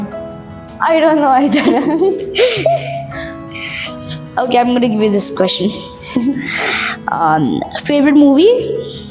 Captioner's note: laughs